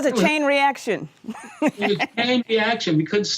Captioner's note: laughing